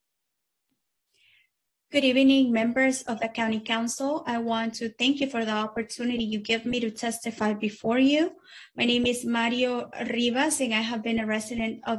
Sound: speaking in spanish

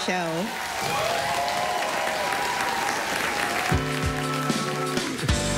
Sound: applause, cheering

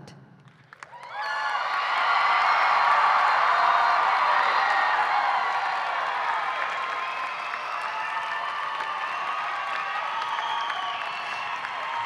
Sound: cheering

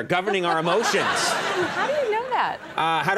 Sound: audience laughing

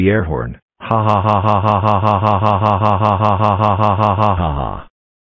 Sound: eric laughing

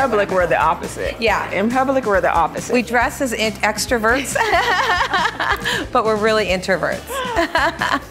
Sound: laughter

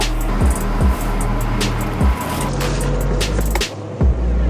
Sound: train chugging

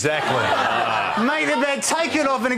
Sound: laughter

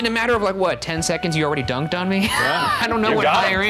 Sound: laughs

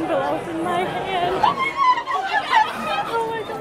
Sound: screams

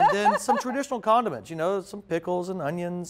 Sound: laughing

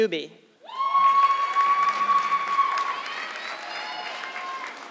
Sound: audience clapping

